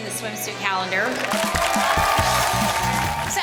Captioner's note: group cheers